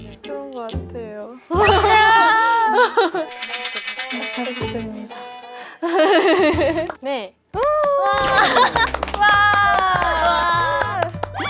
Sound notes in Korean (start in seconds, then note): 7.6 박수